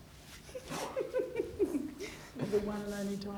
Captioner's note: she laughs